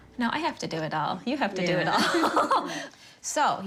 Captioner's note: laughs